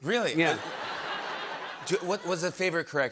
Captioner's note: laughter